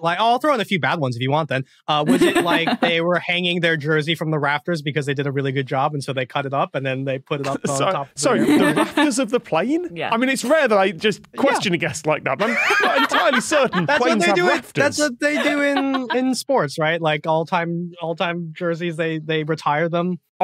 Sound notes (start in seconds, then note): 1.8 guffaws